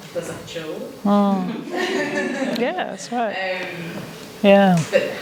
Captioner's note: laughter